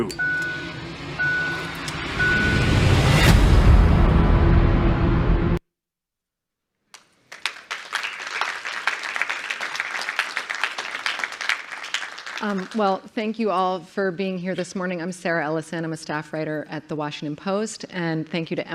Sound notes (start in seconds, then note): 6.9 clapping